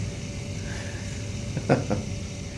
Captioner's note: laughing